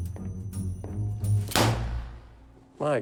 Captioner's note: gunshot